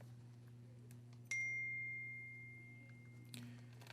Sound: ding

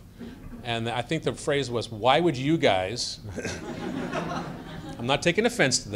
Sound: laughter

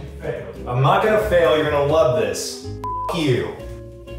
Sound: beep

